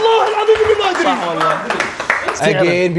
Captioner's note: crew clapping